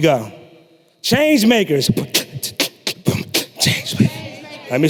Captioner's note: beatboxing